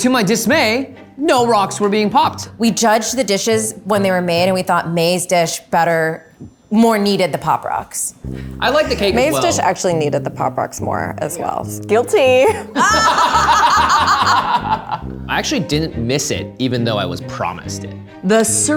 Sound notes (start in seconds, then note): 12.5 everyone laughs